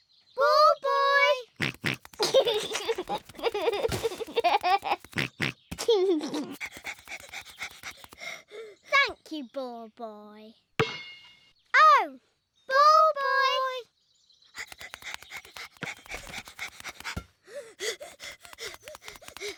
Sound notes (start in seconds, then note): 1.5 snorts and laughs; 5.8 panting; 14.5 panting; 17.5 panting heavily